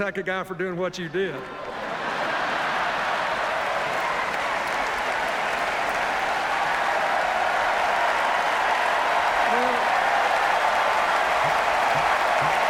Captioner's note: laughter, cheers, applause